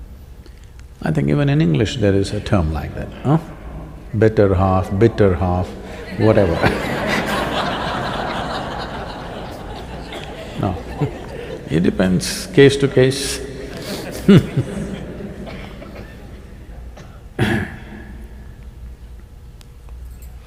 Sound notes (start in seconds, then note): 5.8 laughter; 17.0 laughs